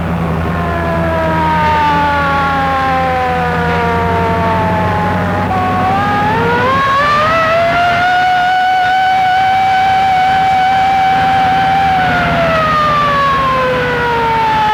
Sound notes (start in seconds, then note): 0.9 siren blaring